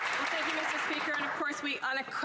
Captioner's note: some Applause